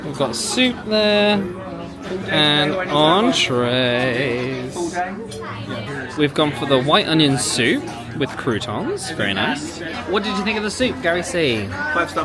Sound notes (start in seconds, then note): 5.0 crowd chattering